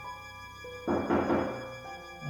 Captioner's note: knocking